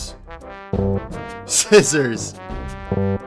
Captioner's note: slightly chuckling